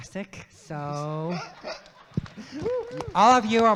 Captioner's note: everyone laughs and claps